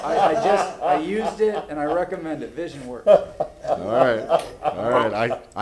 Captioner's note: laughter